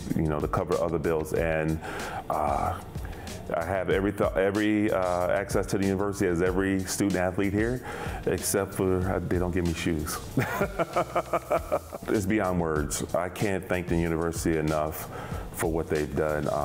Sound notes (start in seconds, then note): 10.4 laughs